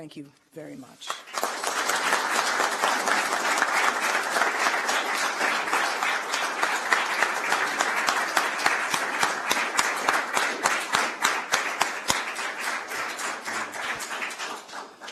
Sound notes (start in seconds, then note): 2.9 applause